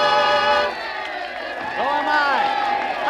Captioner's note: crowd cheering